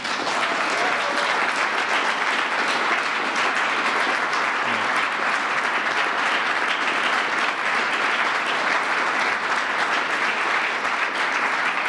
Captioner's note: applause